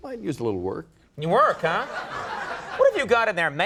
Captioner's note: audience laughing